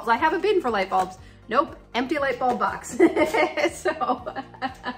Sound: laughs

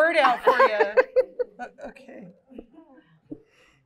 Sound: laughs

